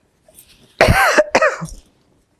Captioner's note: coughing